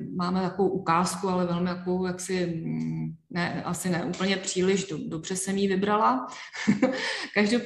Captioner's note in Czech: smích